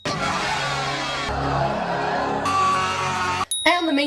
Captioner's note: yelling; crowd cheering; louder yelling; ding